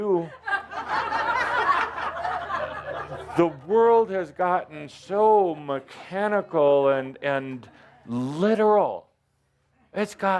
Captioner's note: laughter